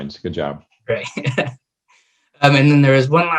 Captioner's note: laughing